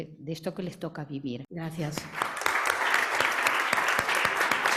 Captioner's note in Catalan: Aplaudiments